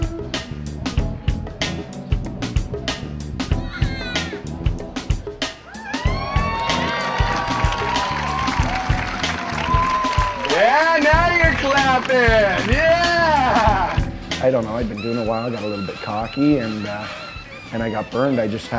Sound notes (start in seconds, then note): 0.1 funky music continues; 5.7 audience cheering and applauding